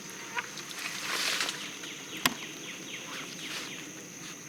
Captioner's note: fly buzzing